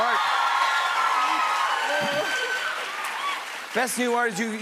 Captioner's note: cheers and applause